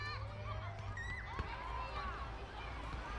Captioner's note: children's chatter